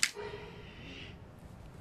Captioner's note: growl